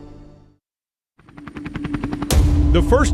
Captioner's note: helicopter rotor